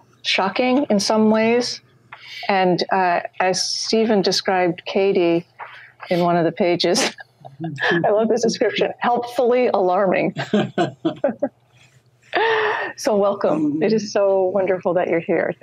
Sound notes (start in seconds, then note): 6.9 laughs; 10.3 laughs